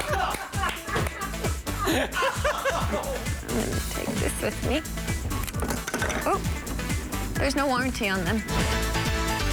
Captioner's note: laughter